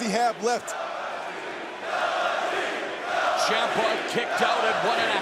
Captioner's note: crowd cheering